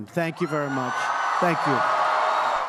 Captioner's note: applause